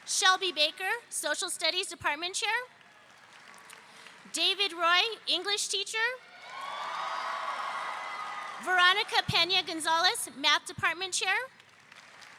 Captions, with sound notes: Shelby Baker, Social Studies Department Chair, David Roy, English Teacher. (audience cheering) Veronica Pena-Gonzales, Math Department Chair,